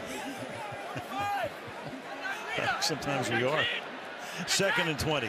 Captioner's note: laughs